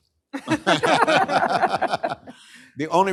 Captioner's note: laughter